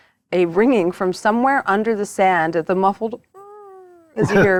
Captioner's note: wails